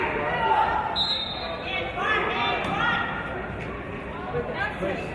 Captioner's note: referee's whistle